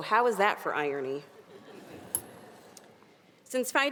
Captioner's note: audience giggling